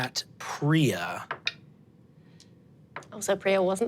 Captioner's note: dice rolling